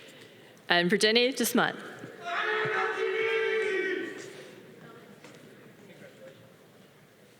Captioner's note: audience applause